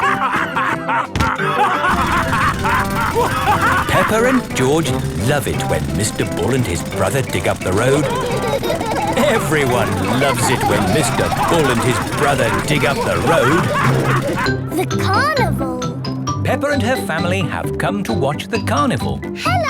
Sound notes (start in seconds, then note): 0.1 both laughing; 3.4 drilling; 9.1 laughing